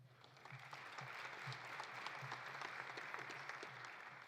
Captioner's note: audience applauding